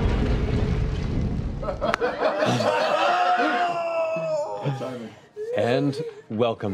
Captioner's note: laughter